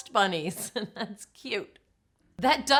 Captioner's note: chuckles